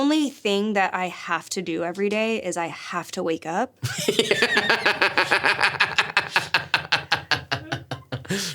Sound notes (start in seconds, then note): 3.8 Stavros laughs